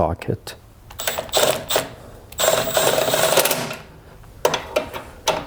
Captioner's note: ratchet whirling